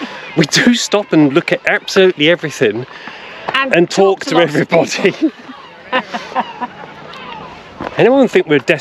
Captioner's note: laughter